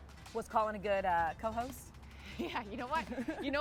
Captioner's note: laughs